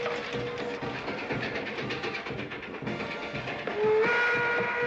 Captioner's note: marching band playing; train rumbling; train whistle blaring